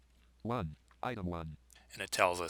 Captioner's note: synthesized speech